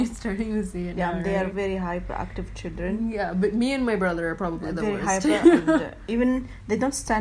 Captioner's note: laughs